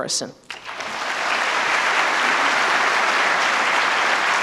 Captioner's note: applause